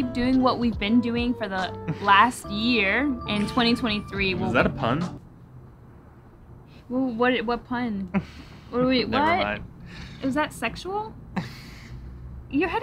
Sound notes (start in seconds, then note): 8.7 chuckles; 11.4 chuckles